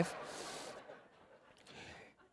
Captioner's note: laughter